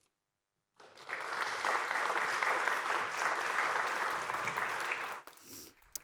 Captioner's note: applause